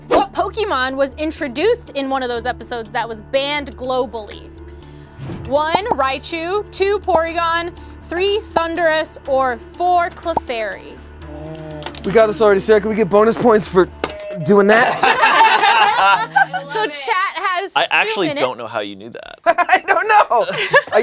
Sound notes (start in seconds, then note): 14.8 laughing; 20.5 laughing